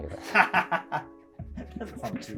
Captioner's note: laughing